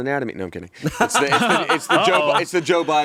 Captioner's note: laughs